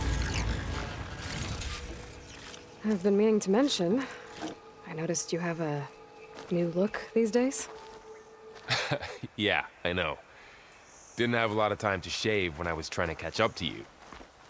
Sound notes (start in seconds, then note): 8.6 laughs